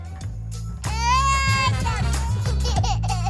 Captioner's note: baby laughing; baby wailing